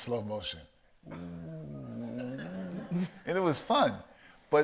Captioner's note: mimics slow motion distortion